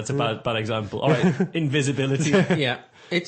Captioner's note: laughs